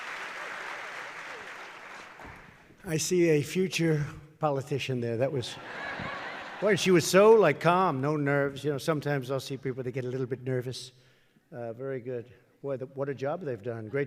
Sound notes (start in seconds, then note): 0.0 applause; 5.5 laughter